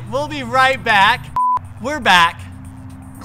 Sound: beep

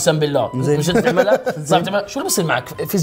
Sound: laughs

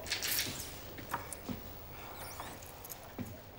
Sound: heavy breathing

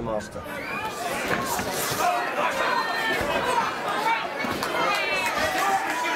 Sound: crowd calling out to the boxers

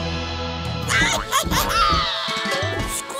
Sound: squeaking

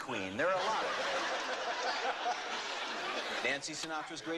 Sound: laughter

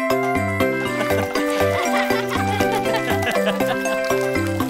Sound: children laughing

